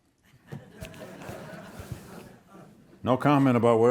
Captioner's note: audience laughs